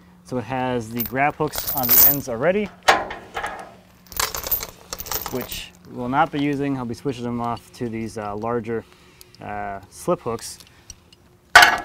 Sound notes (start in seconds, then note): 1.4 chain banging; 11.6 hook clangs